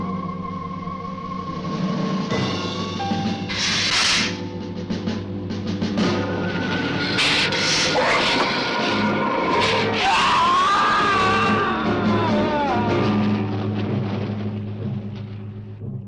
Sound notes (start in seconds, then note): 3.5 lizard hissing; 9.6 man screaming